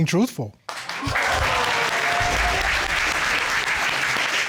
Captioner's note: audience exclaims